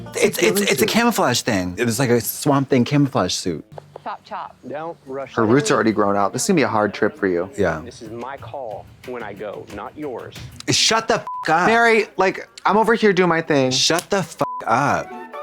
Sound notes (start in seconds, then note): 11.2 beep; 14.4 beep; 14.6 playful music